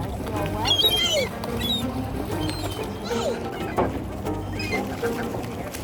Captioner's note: sounds of sea gulls and splashing water